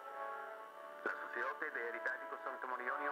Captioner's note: speaking foreign language